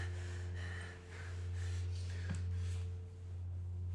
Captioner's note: breathing hard